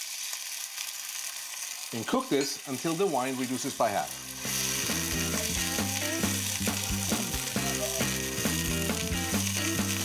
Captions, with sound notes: You cook this until the wine reduces by half. (fast guitar music) (food sizzling)